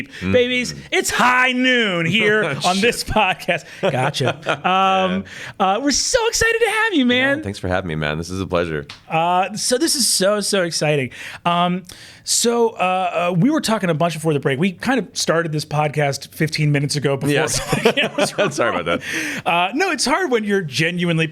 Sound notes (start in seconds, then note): 2.1 chuckles